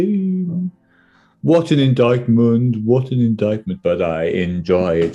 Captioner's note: deep voice